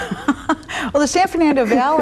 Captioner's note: laughs